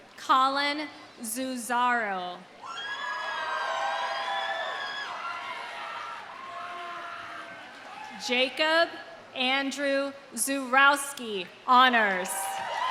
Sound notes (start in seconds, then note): 2.6 audience cheering; 3.2 audience applauding